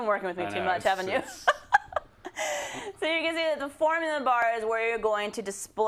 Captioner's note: laugh